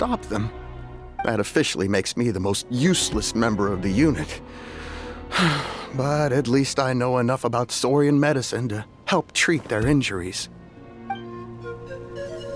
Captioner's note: sigh